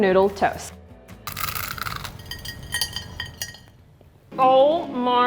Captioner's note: noodles crunch loudly